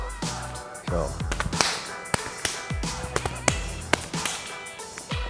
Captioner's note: hands slapping in combat